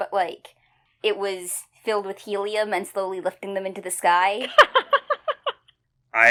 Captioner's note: laughs